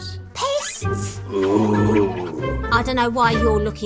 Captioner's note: Reggie groans